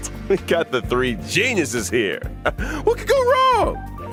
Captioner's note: sigh